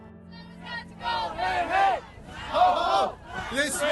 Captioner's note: crowd shouts